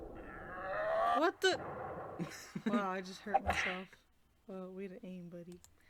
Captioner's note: laughs